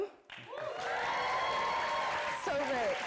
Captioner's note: audience applauding